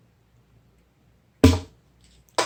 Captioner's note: pop!